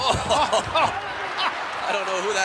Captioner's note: laughs